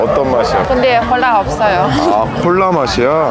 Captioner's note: laughing